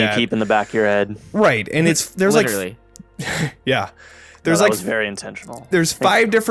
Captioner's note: laughs